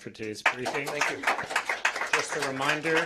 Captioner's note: applause